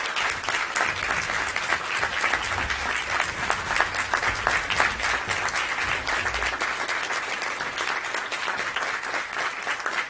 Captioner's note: applause